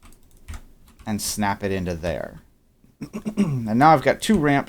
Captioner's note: clears throat